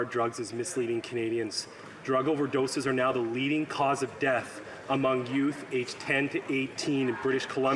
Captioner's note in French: voix de l'interprète